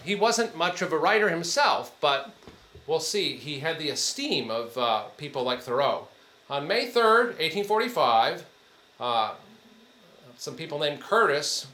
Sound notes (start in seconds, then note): none